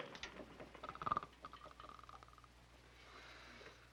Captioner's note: Murdock snores